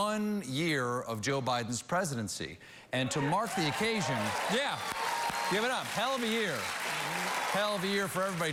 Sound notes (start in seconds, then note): 0.8 applause